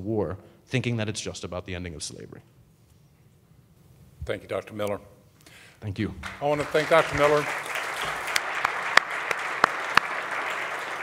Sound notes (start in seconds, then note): 6.2 audience applauding